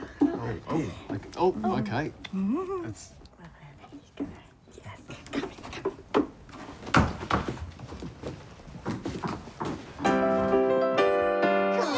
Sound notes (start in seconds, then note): 4.8 whispered; 10.0 children's piano music; 11.7 splashes and screaming